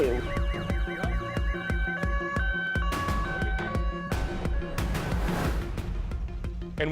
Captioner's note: sirens